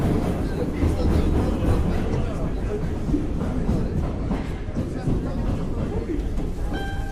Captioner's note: rhythmic sounds of train pulling into station; chimes arpeggio played on mandolin